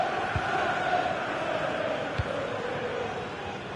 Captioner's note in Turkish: coşkulu tezahürat